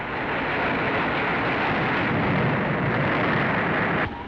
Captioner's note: loud grinding